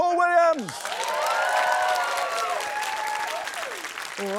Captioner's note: wild cheering, applause